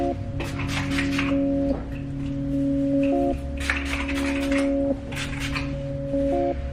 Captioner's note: spray bottle noises